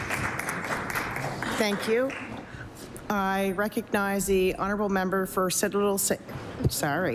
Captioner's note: applause